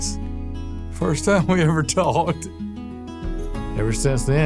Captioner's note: laughs